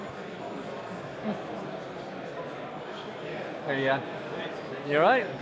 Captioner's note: crowd Chattering